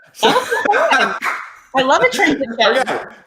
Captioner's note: laughing